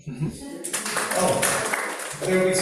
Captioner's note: applause